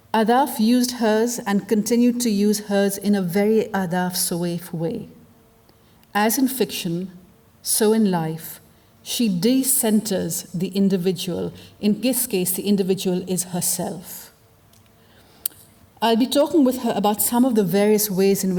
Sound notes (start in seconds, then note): none